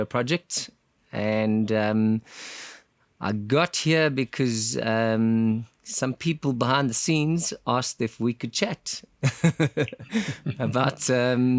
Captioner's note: laugh